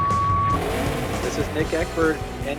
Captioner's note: countdown clock beeps; engine revving